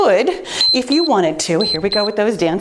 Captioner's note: timer beeps